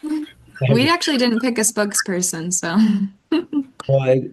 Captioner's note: chuckles